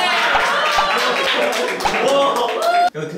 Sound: applause

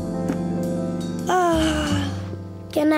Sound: yawning

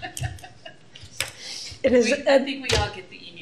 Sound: laughter

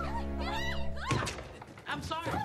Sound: glRLS SHRIEKING

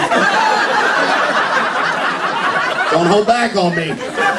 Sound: laughter

